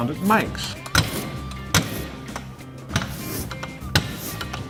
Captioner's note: scratching sounds